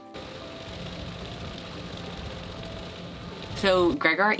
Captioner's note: wind blows